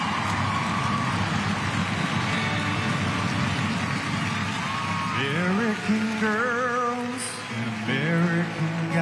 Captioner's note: crowd cheering